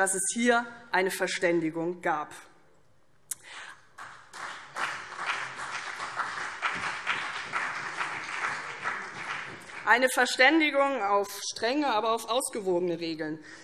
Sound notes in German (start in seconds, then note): 2.2 Beifall CDU und BÜNDNIS 90/DIE GRÜNEN